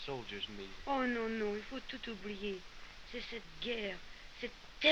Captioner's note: continues speaking french